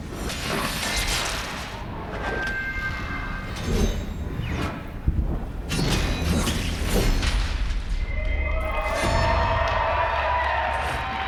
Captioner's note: applause